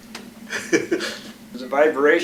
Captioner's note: laughter